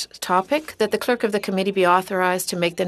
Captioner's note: speaking French